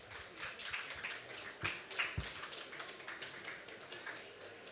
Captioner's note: applause